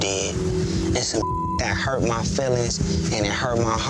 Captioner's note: beep